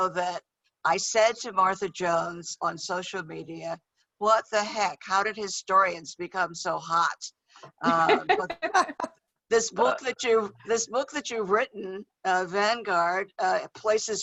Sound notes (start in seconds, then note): 7.8 laughter